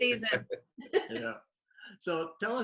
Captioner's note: chuckles